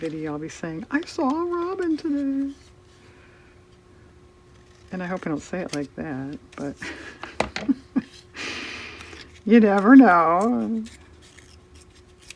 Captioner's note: laughs